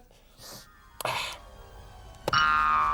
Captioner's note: hammering